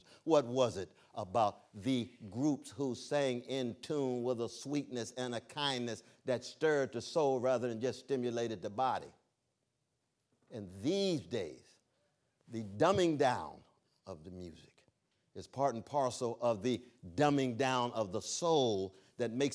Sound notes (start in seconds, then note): none